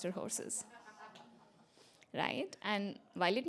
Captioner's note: laughter